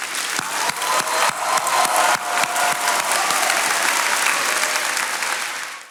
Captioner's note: attendees cheering and applauding